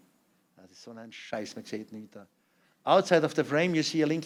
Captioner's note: non-english speech